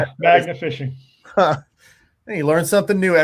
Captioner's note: laughing